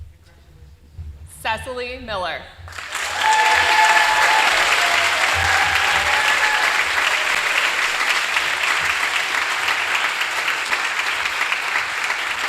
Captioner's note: applause